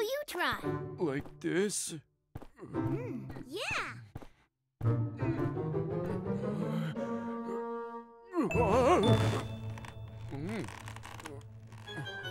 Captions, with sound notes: Now you try. Like this? Mm-hmm. Yeah! [playful music playing] [gasps softly] [exclaims nervously] Mm.